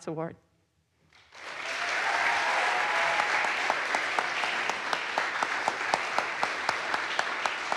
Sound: audience applauds; audience cheers

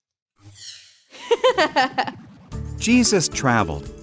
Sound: girl giggles

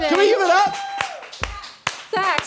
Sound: applause

